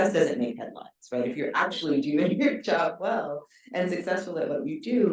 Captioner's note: chuckles